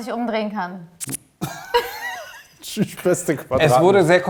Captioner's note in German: Lachen